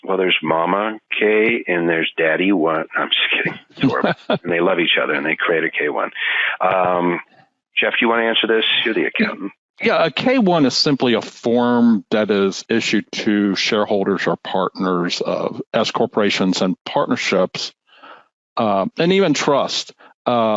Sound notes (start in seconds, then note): 3.4 laughing; 9.2 chuckling